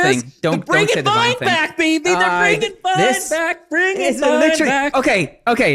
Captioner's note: singsong